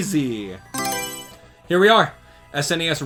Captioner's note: Mario Selection Sound